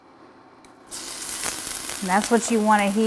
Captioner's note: oil sizzles